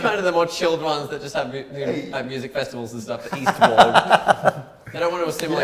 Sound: laughs

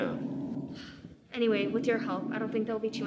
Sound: sigh

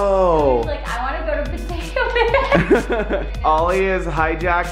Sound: giggles

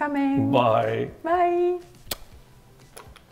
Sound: smacks

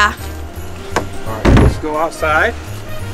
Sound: door closes

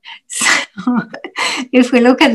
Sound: interpreter laughs

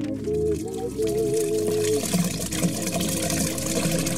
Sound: water sloshing

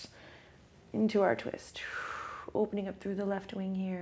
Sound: exhales

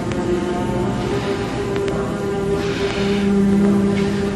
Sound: gasps, sighs

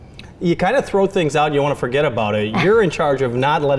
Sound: laughs

